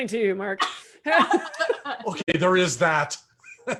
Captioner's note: laughs